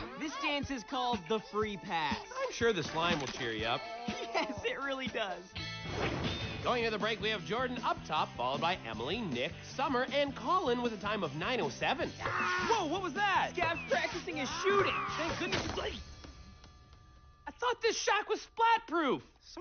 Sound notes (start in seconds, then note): 3.8 chuckles; 12.2 screams